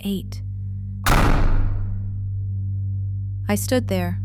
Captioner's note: slam